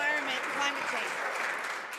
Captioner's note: some Applause